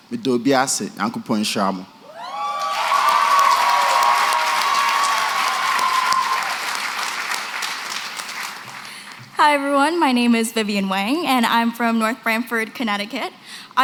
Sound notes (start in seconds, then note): 0.1 non-english; 2.1 applause, cheering